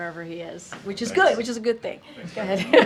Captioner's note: laughs